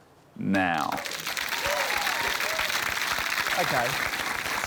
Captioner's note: cheering, applause